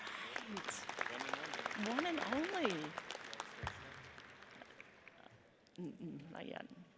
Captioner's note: audience applauds; chattering